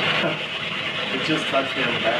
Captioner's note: chuckles